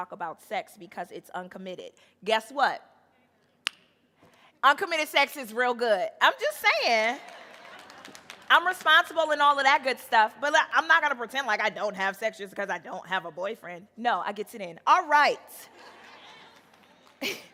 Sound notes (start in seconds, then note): 3.6 fingers snap; 7.5 audience laughing; 15.8 audience laughing; 17.2 chuckles